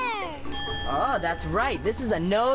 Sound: dings

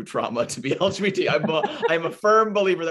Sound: laughter

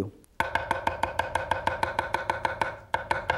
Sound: chopping

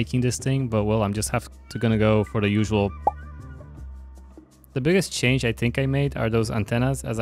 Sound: pop

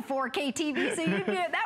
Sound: laughter

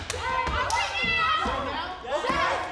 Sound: group cheer

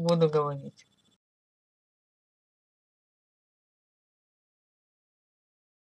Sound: silence

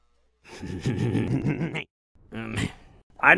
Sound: laughs

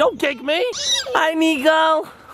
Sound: shrieking

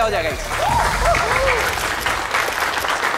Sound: crowd cheering and clapping

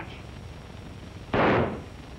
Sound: gunshots

